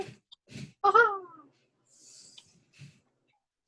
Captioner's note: chuckles